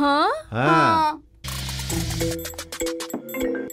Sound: phone ringing

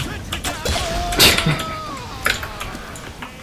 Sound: laughing

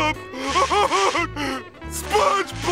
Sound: crying

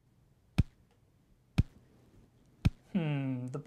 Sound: thudding

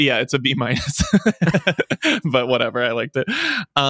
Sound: laughs

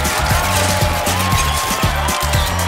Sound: crowd cheering

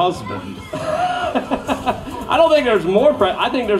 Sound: laughing

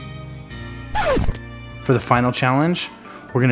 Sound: record scratching

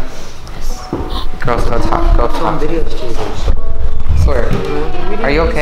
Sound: characters whispering

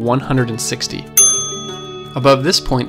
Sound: elevator dinging

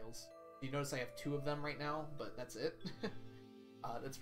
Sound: chuckles

